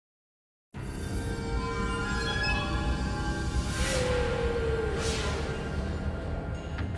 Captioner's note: mysterious music; graphics whooshing; mysterious music